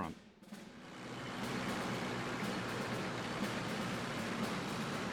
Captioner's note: engines running